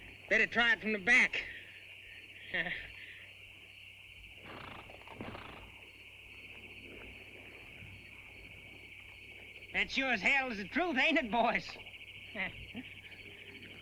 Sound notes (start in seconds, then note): 4.4 horse snorts